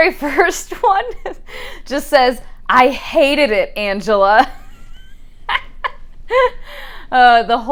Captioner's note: laughs